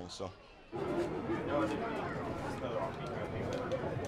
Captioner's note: crowd chattering